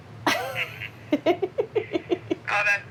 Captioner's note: laughs